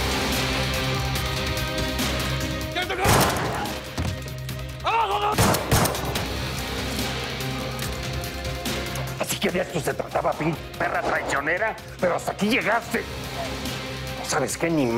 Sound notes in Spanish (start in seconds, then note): 3.0 Disparo; 5.4 Disparos